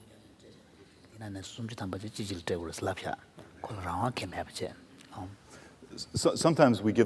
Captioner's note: foreign Language